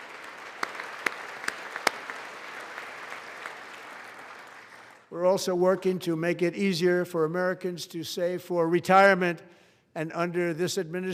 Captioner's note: applause